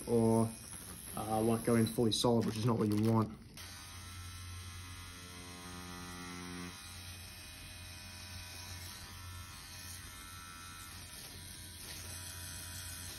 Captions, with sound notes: or like going fully solid, which is not what you want. (machine buzzing)